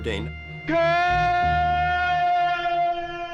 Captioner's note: screaming